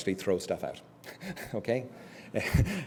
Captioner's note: laugh